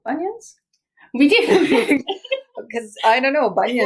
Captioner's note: laughs